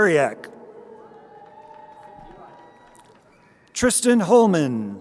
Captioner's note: crowd cheering